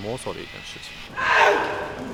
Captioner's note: shouting